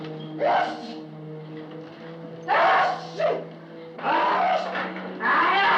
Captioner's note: sneezing